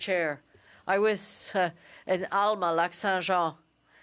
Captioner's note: speaking French